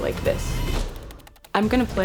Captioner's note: typing